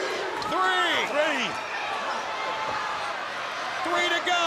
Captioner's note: crowd cheering